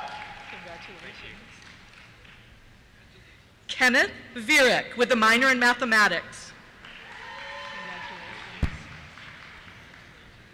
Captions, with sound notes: Congratulations. Thank you. Kenneth Vierck, with a minor in Mathematics. (cheers) Congratulations.